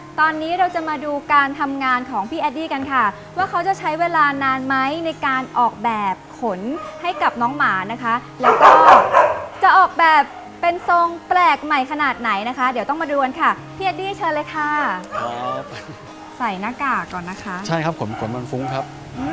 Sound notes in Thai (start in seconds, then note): 15.5 หัวเราะ